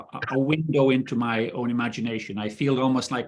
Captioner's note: coughing